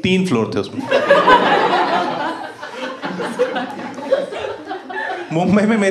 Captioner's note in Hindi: हँसना